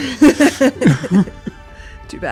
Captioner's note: laughs